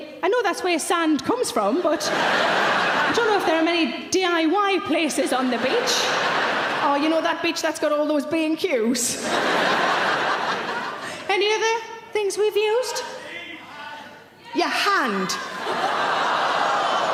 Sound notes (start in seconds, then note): 9.1 audience laughs; 13.1 audience shouts answers